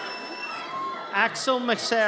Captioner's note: audience cheers